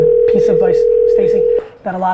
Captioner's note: phone ringing